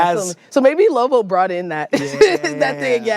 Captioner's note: laughs